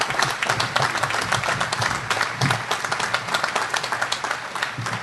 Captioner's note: audience applauding